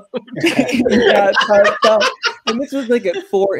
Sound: laughter

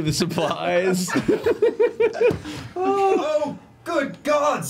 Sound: all laugh

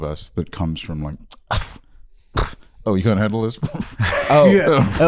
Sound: scoffs

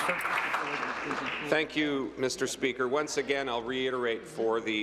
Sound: applause

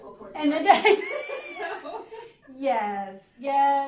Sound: laughter

